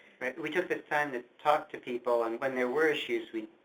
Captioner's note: voiceover